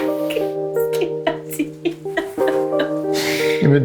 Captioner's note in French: rires